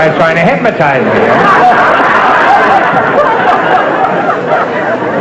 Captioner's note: audience laughter